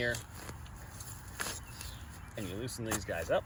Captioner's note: digging lightly